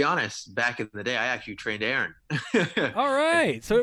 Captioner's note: laughs